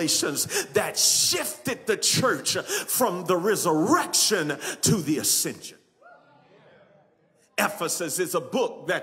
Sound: congregants cheer

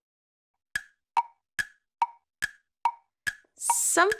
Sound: clock ticking

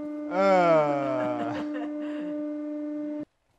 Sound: groan; laughing

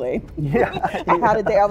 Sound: everyone chuckles

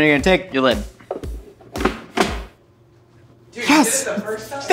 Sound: snaps lid loudly

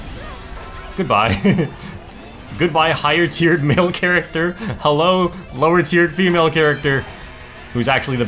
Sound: laughs

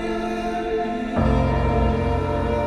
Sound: none

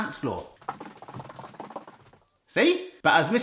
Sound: footsteps pattering frantically

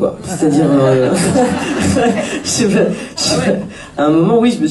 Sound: laughs

